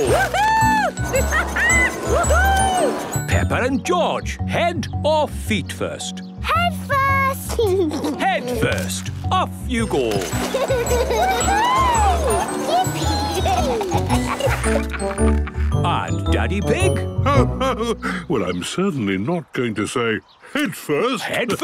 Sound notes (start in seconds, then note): 0.0 laughing; 7.6 giggles; 10.2 giggling; 14.1 laughing